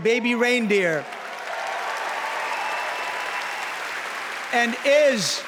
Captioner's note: cheering, applause